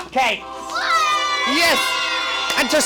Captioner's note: cheering